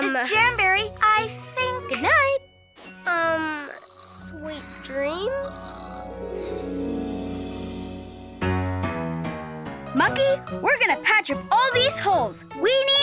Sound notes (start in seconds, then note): 5.2 Jamberry snoring; 8.6 playful music